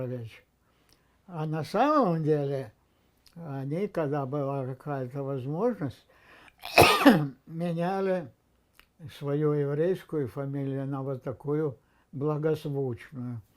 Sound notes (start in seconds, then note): 6.6 coughing